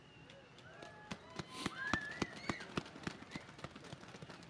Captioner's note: audience claps